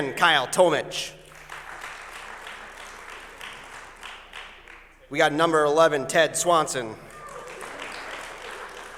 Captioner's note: applause